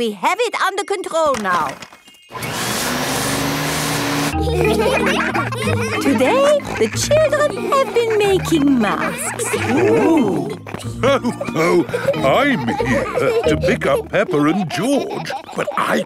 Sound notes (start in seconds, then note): 2.3 whirring; 4.9 all laughing; 11.3 laughs